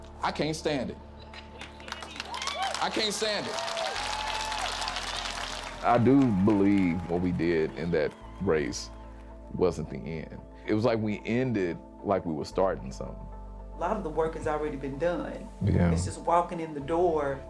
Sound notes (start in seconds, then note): 3.5 crowd cheering